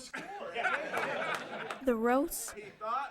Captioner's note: laughter